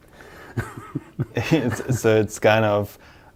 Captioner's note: both laughing